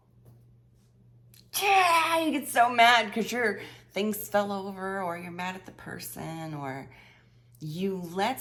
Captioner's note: frustrated yell